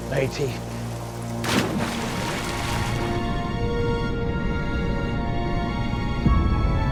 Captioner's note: water splashing; solemn music